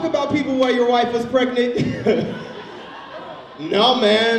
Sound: laughs

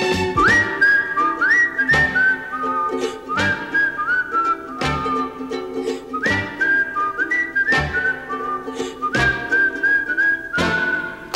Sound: cheerful whistling

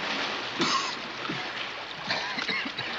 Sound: coughing and spluttering

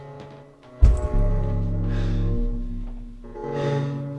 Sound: woman stomping

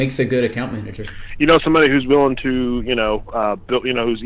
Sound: male Voice

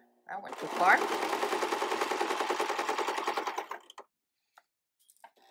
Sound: sewing machine clattering

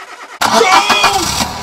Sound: screams

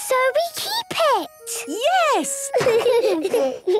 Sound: laughter

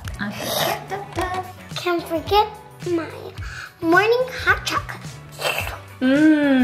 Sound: slurp; slurps

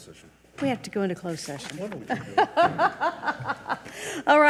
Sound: laughs

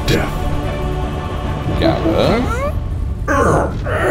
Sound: ape noises

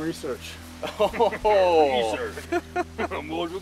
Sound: laughs

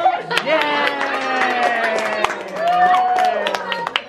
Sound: cheering

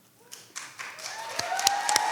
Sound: people clapping; people cheering

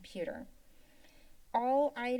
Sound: pause

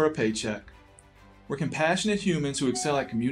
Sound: text bubbles ding

